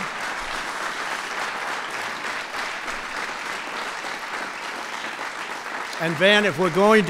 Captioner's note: applause